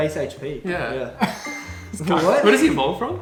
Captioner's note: chuckles